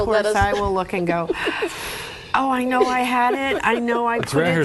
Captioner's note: sighs